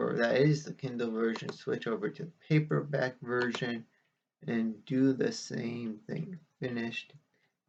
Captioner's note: click of trackpad